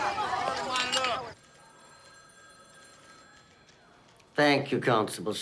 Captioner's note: phone ringing